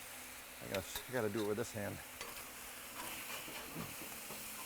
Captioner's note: chicken sizzles